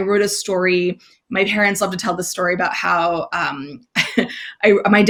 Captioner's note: laughs